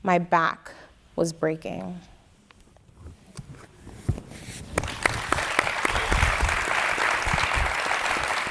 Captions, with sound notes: my back was breaking. (audience applauding)